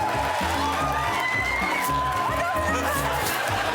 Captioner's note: laughter